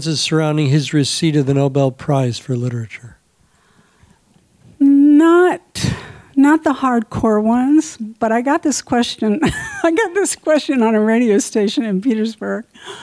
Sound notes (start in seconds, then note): 9.3 laughs